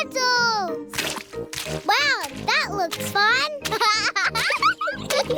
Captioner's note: laughs